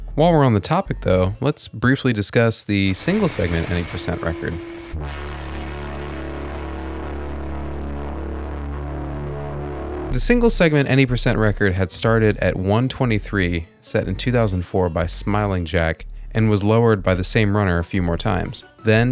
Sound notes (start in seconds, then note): 4.8 hoooooooooooooooooome